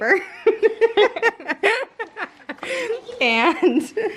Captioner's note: laughs